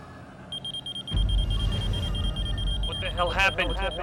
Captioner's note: machine beeping erratically